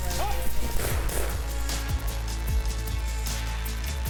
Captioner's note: gunshots ring out; upbeat music